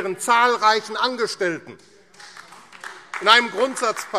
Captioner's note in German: Beifall AfD